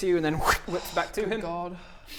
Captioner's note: whrrsh